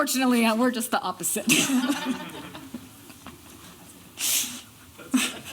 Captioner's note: laughter